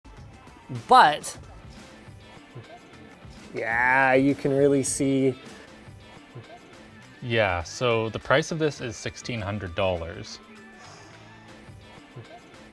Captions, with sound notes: Butt! Yeah! You can really see. Yeah, so... The price of this is 1600 dollars. *exhale*